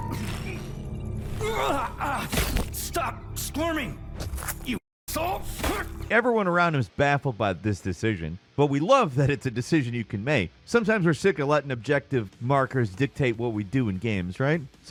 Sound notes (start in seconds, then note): 5.5 grunts